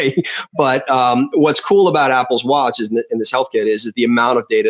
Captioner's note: laughter